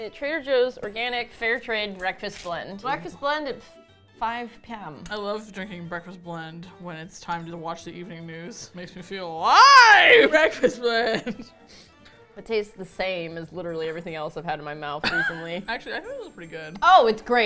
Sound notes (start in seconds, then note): 5.5 dryly; 9.5 chuckling; 15.0 laughs